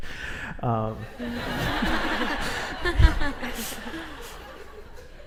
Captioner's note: audience laughs